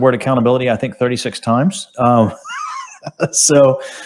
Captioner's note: laughs